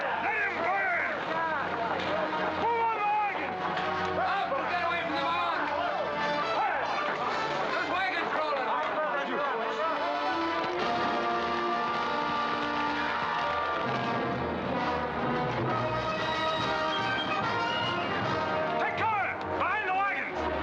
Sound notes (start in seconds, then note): 6.0 men chattering; 9.9 dramatic music; 10.4 fire crackling; 15.6 military orchestral music